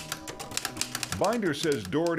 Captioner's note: keys clicking